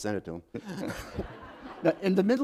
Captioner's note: laughter